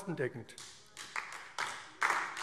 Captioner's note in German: Beifall AfD